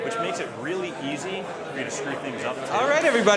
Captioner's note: people chattering